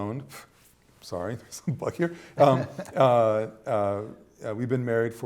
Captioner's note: laughter